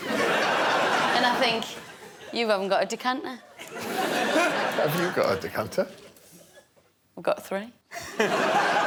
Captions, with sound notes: And I think... -You haven't got a decanter. -[laughter] Have you got a decanter? I've got three.